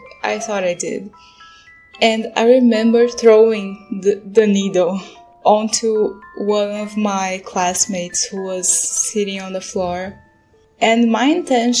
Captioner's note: laugh